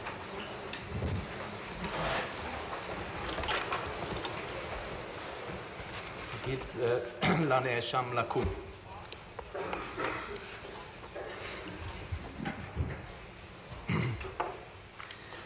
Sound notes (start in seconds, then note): 6.3 in Hebrew